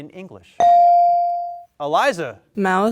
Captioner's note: bell dings